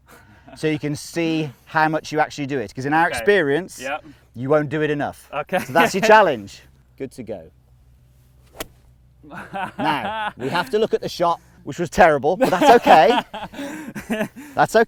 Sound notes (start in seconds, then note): 5.5 laughing; 8.4 golf ball hits; 9.2 laughs; 12.4 continues laughing